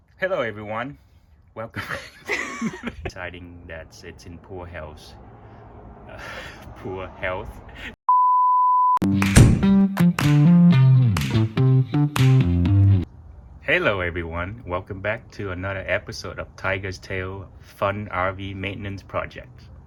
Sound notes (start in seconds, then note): 1.7 more laughter